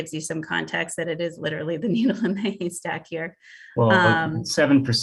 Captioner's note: chuckles